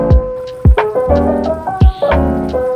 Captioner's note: boiling